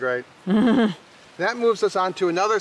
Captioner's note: laughing